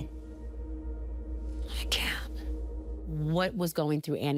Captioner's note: whispering